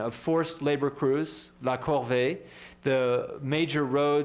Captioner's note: french